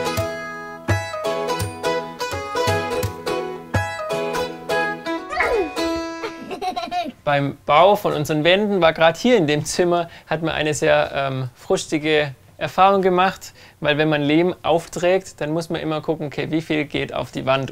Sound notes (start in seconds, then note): 5.2 quiet scream, laughter